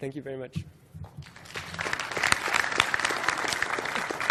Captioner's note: applause